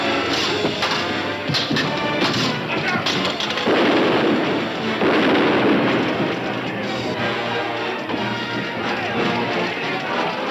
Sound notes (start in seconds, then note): 3.7 gun firing